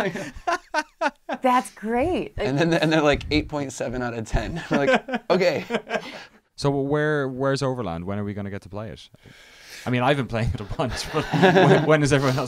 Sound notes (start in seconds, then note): 4.9 laughing